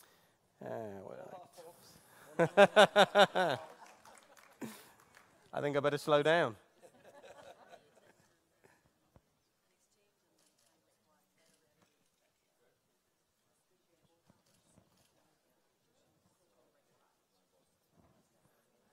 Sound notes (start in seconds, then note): 2.3 laughter